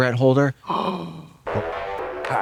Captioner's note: Trixie gasps